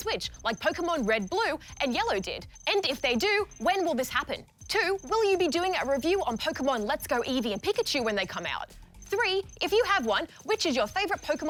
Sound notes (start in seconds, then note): none